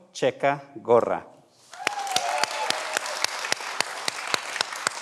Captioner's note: everyone applauds